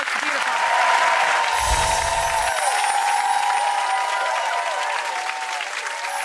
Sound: audience clapping and cheering

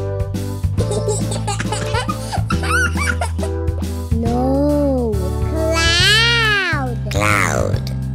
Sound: laughs

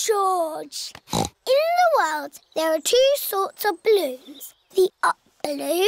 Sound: snorts

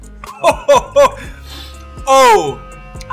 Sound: laughs

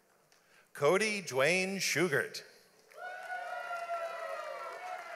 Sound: audience applauds

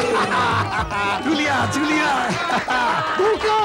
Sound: laughs; applauding

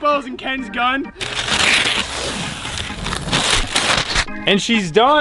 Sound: tape peeling off

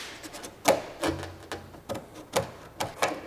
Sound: scratching noises

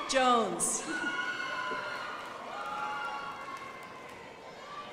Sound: crowd applauding

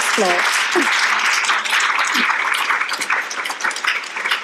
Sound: audience applauding

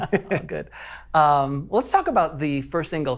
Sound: both laughing

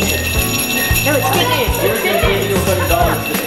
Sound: ringing

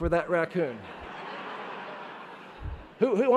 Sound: laughing

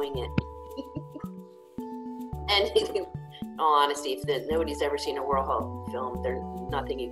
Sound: laughs

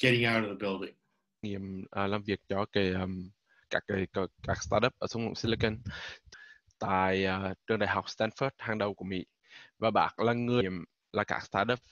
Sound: speaking vietnamese

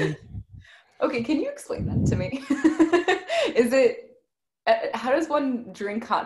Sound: giggles

